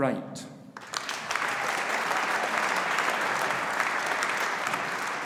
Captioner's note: audience applauding